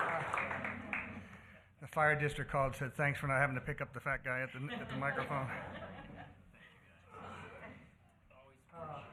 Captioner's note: applause